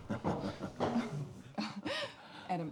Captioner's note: chuckles